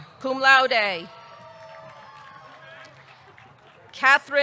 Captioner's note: audience cheering; audience clapping